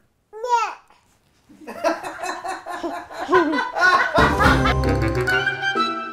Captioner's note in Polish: hahaha, śmiech wszystkich na planie, lol, xD, rotfl